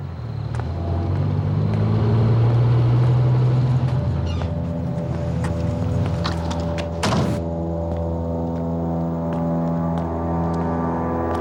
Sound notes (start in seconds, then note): 2.2 car engine whirs; 6.9 door slams